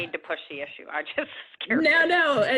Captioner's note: laughs